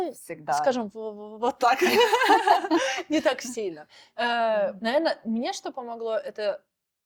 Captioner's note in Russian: смех